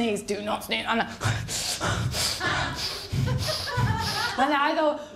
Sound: breathes heavily

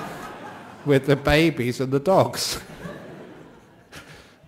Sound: laughter; laughter

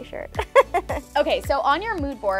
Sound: laughs

